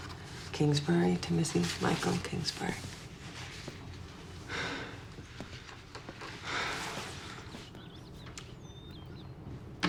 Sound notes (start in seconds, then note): 4.4 breathes heavily